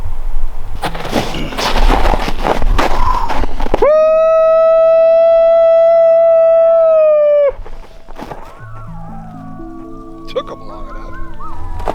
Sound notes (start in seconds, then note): 3.7 howling repeats; 8.5 coyotes howling; 11.7 howling continues